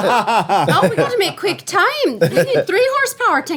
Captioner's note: laughing